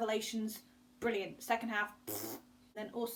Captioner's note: blows raspberry